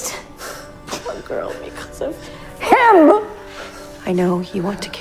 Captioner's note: shouting